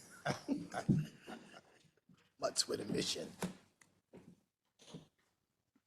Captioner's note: laugh